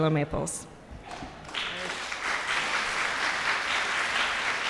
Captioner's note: audience applauding